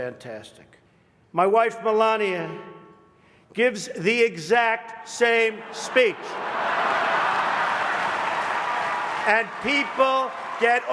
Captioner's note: laughter